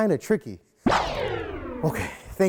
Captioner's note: anti-gravity whooshing